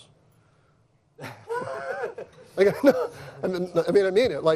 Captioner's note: laughter